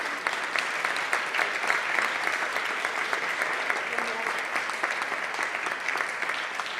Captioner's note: applause